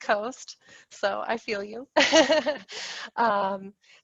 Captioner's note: laughs